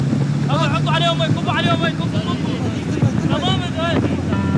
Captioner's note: Arabic spoken audio